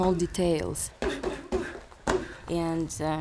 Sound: grunting

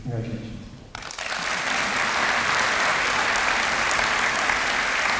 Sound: applause

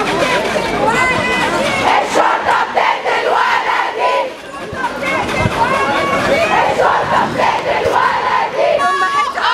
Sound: chants

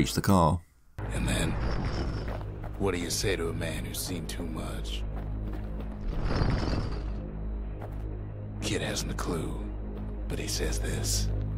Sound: in-game audio

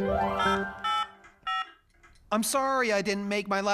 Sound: cell Phone Tones

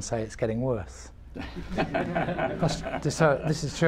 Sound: laughter

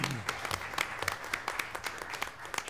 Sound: applause

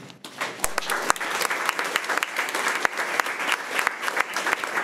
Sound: crowd clapping

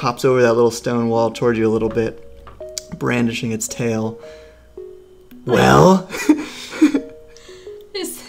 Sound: laughs

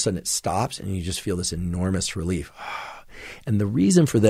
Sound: sighs

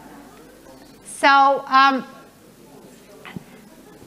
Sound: murmuring

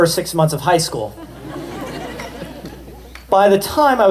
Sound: laughter

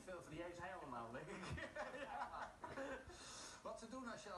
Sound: laughter

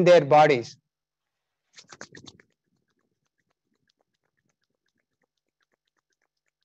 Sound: briskly rubbing palms of hands together

